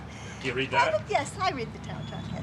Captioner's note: chuckling